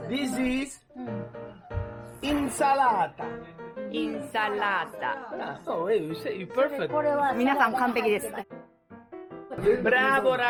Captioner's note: Italian